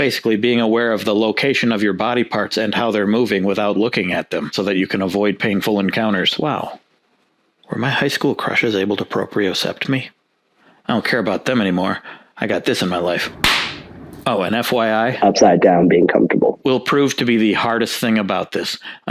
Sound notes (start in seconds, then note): 13.4 belly slap